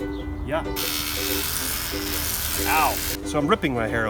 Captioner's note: trimmer buzzing